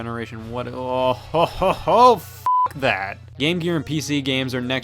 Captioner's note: beep